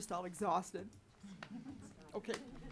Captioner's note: laughing